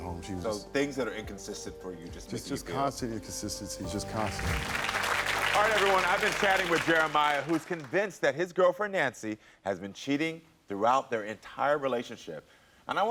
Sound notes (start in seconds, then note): 4.1 audience applauds